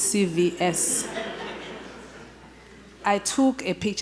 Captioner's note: audience laughter